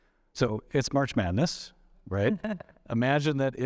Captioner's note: chuckles